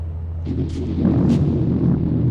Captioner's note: roaring thunder